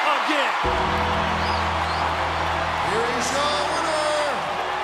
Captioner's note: bell rings; bells tolling; dramatic music